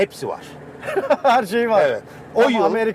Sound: laughs

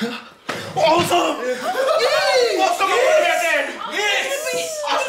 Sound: celebration chatter

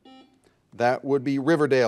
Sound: buzzer dings

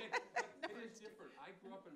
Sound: laughs

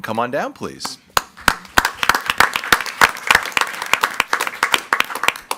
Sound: group applauding

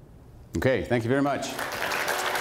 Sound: electronic music; applause

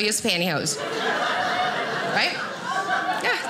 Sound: audience laughing

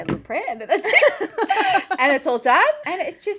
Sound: laughing

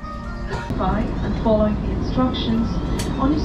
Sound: airplane cruising

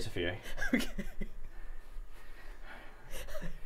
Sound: laughing

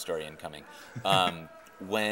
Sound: chuckling

